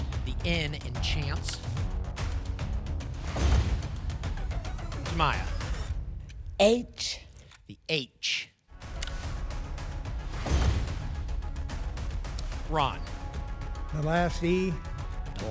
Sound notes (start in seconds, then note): 3.1 thump; 3.2 whoosh; 10.3 whoosh; 10.3 thump